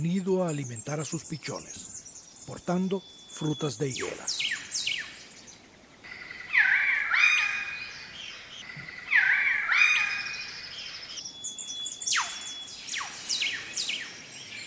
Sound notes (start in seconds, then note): 6.3 catbird call